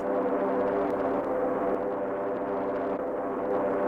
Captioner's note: planes roaring